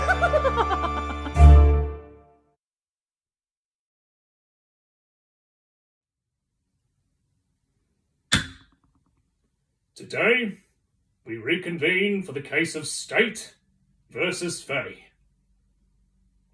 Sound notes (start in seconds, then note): 0.0 villainous laughter; 8.3 gavel